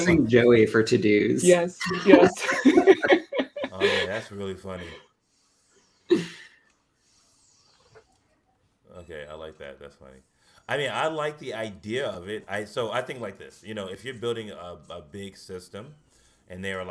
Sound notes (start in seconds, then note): 1.9 laughter